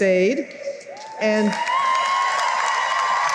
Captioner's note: cheering and applause